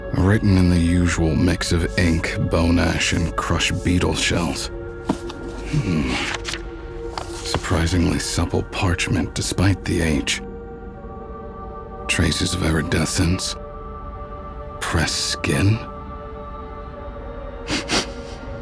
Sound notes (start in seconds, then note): 5.0 páginas virando